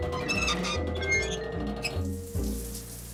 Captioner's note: water running